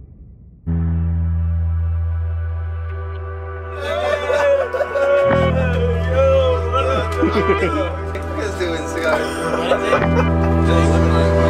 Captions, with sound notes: (laughing) - Look at this dude with his cigar.